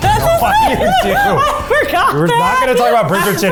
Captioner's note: laughter